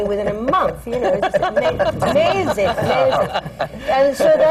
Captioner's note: laughter